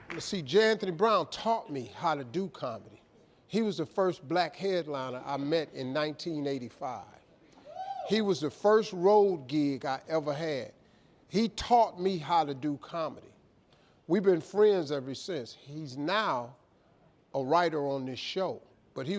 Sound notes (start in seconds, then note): 7.6 woman yelling